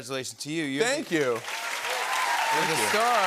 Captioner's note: cheers and applause